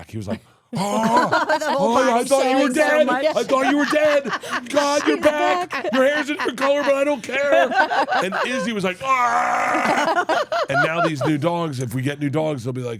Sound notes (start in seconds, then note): 10.0 laugh